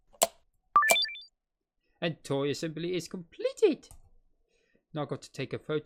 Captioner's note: completion sound